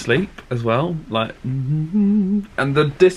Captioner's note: humming